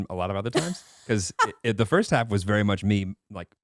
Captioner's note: laughing